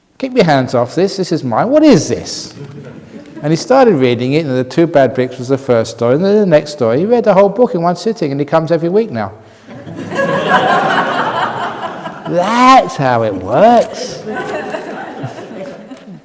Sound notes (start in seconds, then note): 9.6 laughter from the audience